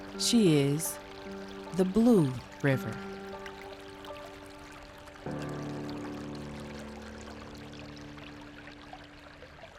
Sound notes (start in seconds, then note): 5.8 soft water running